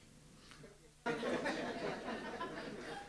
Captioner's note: laughter